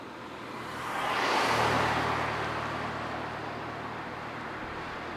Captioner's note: car whooshing